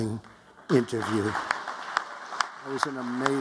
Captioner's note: applause